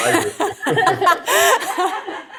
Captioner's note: laughter